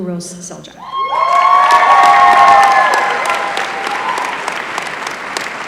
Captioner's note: applause